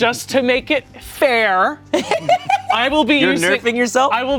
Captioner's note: everyone laughs